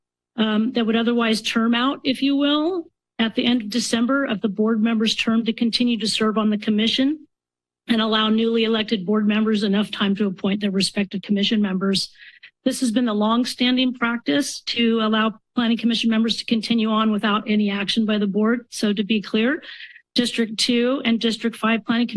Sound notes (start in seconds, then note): none